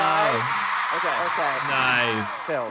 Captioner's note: audience cheering